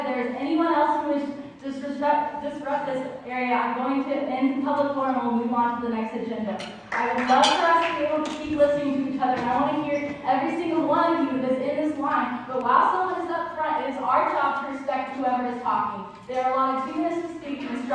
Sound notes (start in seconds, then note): 6.8 crowd clapping